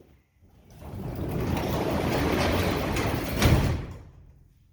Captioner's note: door closing